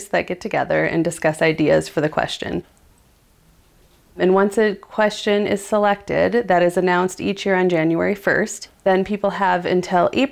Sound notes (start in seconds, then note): none